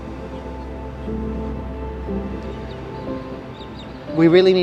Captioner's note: birds chirping; gentle serene music